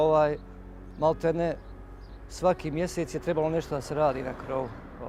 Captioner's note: man speaking Serbian